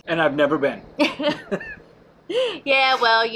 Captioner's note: both laughing